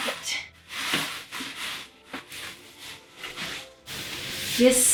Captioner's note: rustle of frilly fluffy flounce